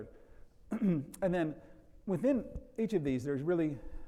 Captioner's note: clears throat